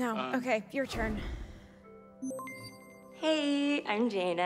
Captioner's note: system beeps